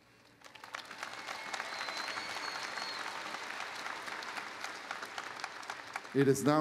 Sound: applause

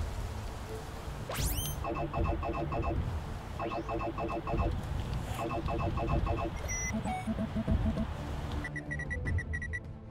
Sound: device whirs and beeps; communications beeping

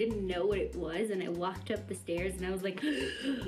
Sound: gasps

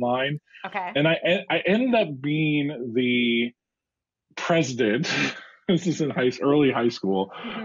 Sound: laugh

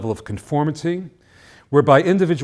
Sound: none

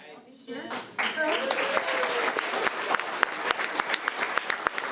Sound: audience applauding

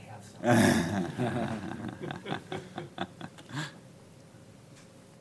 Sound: audience laughing

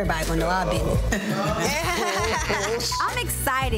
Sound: group laughing

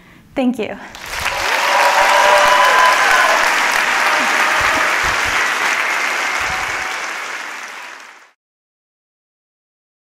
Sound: applause

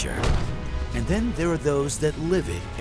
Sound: gunshot

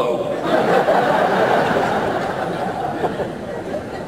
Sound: audience laughter

